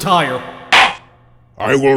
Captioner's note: gavel slams!